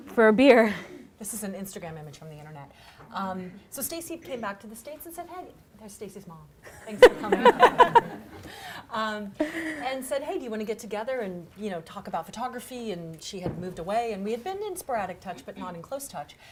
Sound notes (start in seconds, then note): 6.8 all laughing